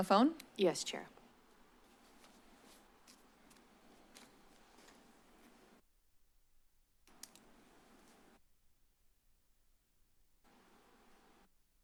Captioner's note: silence